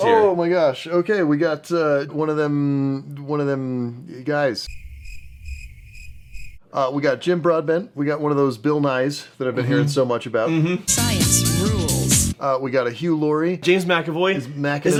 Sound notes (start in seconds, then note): 4.6 crickets